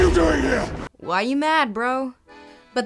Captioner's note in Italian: voce fuori campo